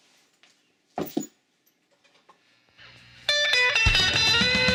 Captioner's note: bag thuds; uptempo blues music